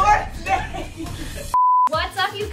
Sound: beep

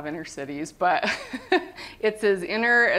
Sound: laughter

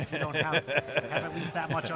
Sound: laughs

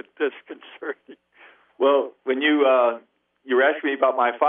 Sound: laughs

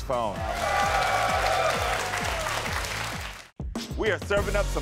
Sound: audience applauds

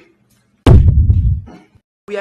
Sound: poof

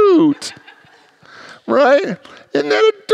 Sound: congregants laugh

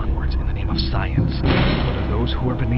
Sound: crash

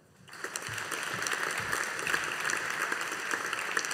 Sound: audience applauding

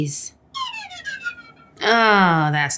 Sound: comedic sound plays

